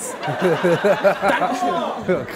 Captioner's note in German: Gelächter